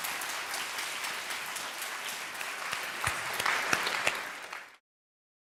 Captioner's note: applause